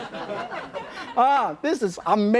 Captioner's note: audience laughing